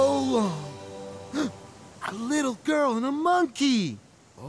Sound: gasping

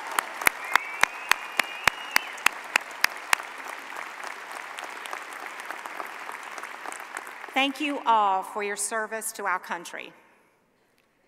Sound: cheers and applause

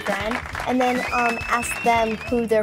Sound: audience applauding and whistling

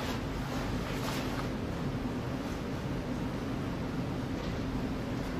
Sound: fabric rustling

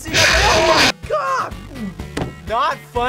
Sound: loud screech

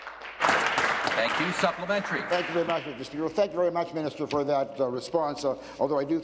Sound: applause

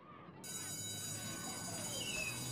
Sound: school bell

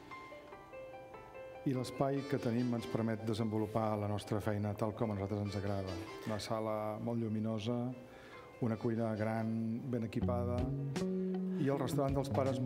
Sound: speaking catalan

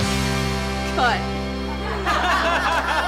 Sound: laughter

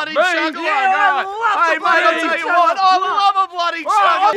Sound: incoherent mirth

